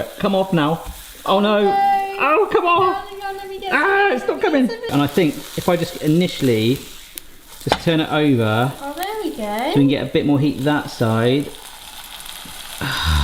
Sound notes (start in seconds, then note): 12.8 sighs